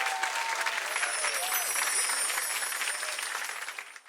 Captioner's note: chimes ring